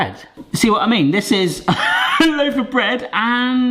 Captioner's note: laughs